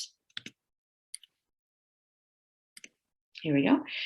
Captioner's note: mouse clicking